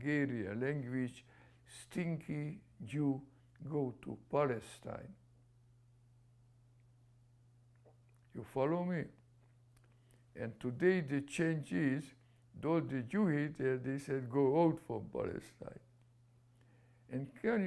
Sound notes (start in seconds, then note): 5.8 pauses for 3 seconds